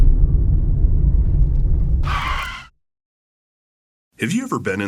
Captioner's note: screeching tires